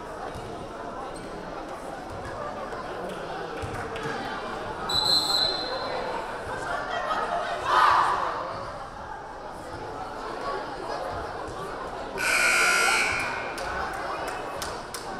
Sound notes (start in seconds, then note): 4.9 whistle blaring; 7.6 team cheering; 12.2 buzzer buzzing